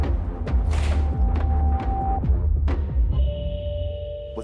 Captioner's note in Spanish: Portazo